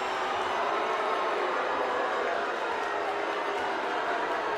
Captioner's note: audience boos